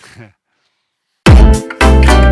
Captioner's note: laughs; upbeat music